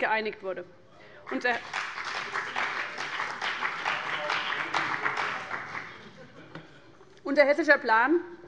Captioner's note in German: Beifall bei dem BÜNDNIS 90/DIE GRÜNEN und der CDU